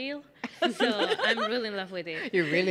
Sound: laughing

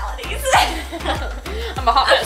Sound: laughs

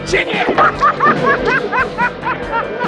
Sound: men laughing; lively music playing

